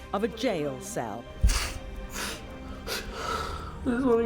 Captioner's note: sniffling